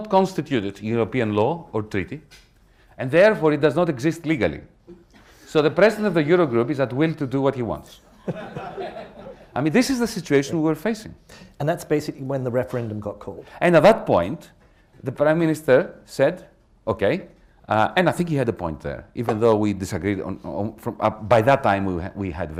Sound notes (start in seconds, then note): 8.1 laughter